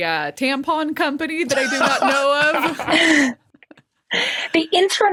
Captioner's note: laughs